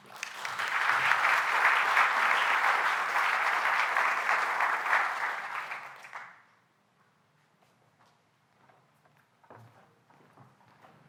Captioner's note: applause